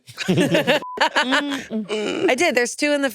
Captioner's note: all laughing; beep